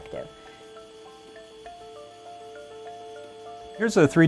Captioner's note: MUSIC and PRINTER SOUND